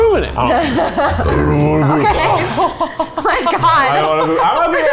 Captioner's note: burping; laughing